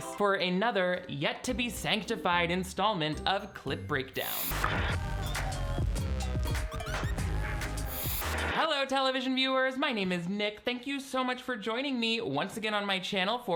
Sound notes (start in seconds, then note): 4.2 static buzzing